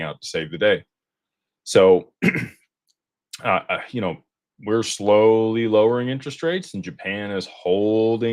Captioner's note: clears throat